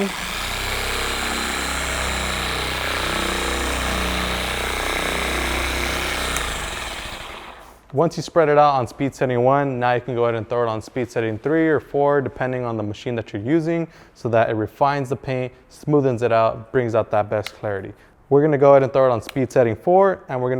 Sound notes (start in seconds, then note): 0.0 polisher motor running; 6.4 polisher motor stopping